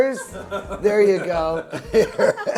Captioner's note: group laughs